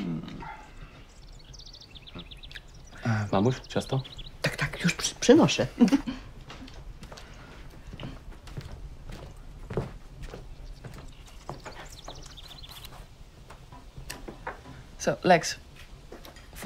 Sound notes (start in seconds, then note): 3.0 speaking in foreign language